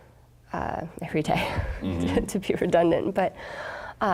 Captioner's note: chuckling